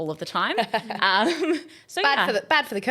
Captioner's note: laughing